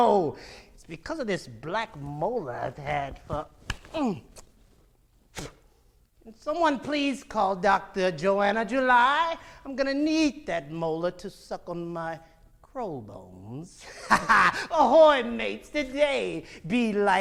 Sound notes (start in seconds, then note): 5.2 spits; 13.9 laughing